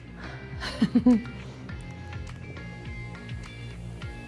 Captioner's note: laughs